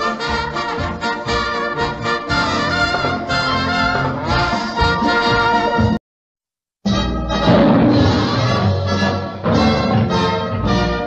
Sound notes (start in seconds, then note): 7.4 roar